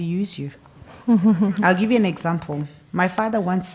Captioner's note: laugh